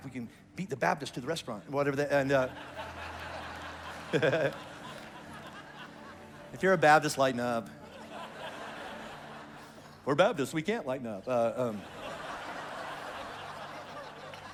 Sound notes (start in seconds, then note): 2.2 congregation laughs